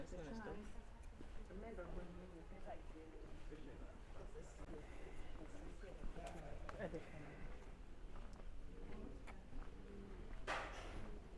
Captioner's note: speaking foreign language